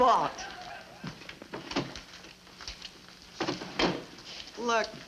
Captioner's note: cabinet door opens and closes